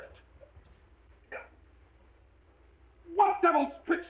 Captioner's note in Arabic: السيد بالدينغ يتذمر